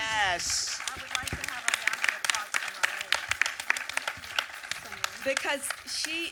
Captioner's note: audience applause